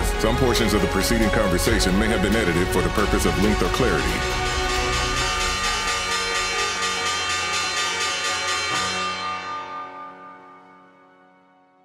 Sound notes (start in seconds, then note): 4.8 bell chiming